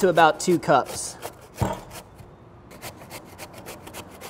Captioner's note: papaya scrapes